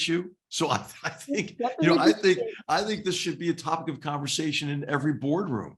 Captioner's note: laugh